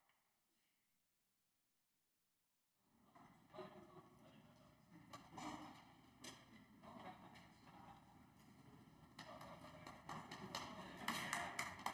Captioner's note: applause